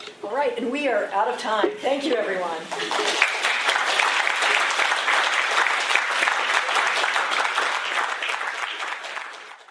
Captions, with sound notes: All right. And we're out of time. Thank you everyone. [APPLAUSE]